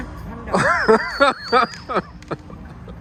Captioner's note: laughing